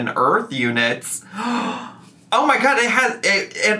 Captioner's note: gasps